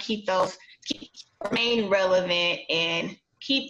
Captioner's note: static